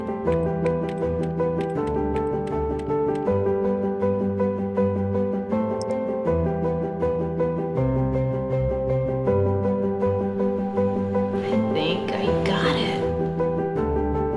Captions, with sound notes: (keys clicking) - I think I got it!